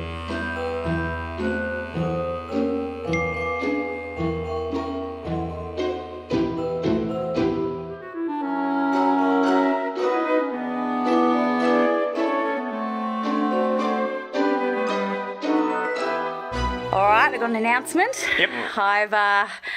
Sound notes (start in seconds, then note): 3.0 phone chimes